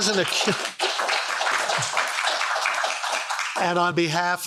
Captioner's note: audience applauds